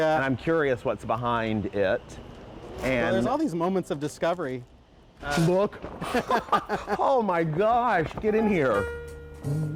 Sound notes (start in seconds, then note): 5.9 laughing